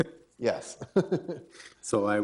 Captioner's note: laughing